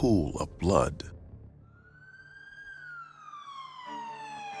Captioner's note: sirens blaring